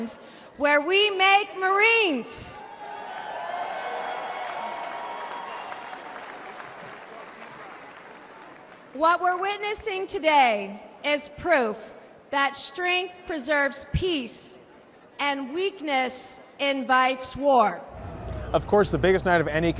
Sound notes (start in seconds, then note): 3.0 applause